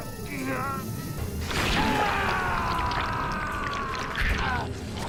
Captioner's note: tentacles slosh; Shadow shouts in pain